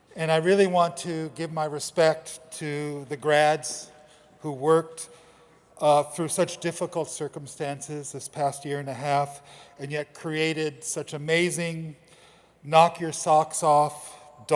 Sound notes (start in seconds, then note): none